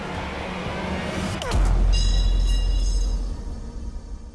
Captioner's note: blade clangs